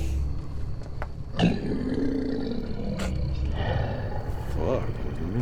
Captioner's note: werewolf growling